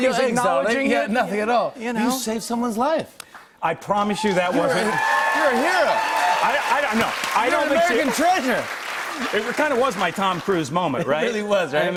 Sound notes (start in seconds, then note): 4.2 cheers and applause